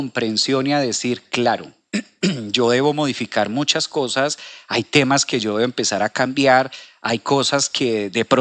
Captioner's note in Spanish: carraspeo